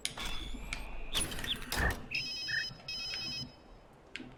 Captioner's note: ringing phone